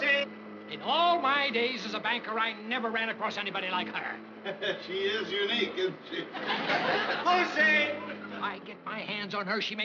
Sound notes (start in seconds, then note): 5.7 chuckling